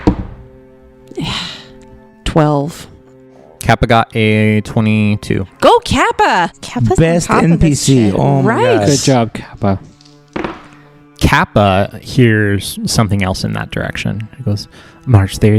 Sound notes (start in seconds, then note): 0.0 quietly, to herself; 1.1 with a sigh